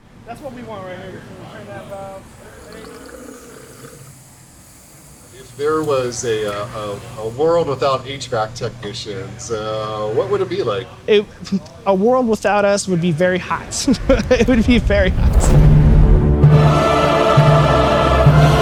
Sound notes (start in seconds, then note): 13.4 laughing; 15.2 dramatic music